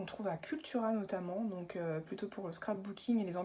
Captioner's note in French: none